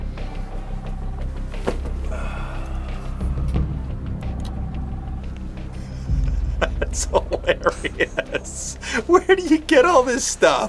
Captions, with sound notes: [dramatic music] [man sighs] - [laughing] That's hilarious, where do you get all this stuff?